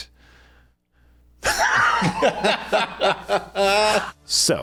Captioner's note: laughs